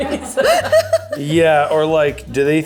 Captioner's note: laughs